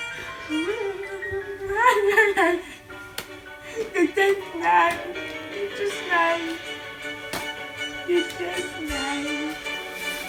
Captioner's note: sobbing